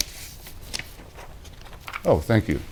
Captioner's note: paper rustles